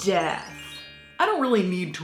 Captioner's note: bells tinkling